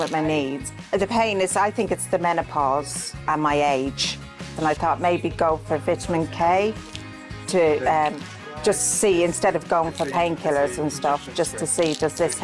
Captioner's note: voiceover